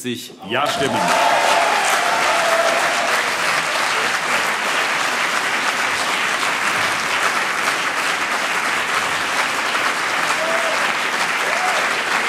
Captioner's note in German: Anhaltender lebhafter Beifall CDU und BÜNDNIS 90/DIE GRÜNEN